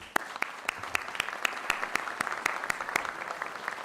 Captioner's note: applause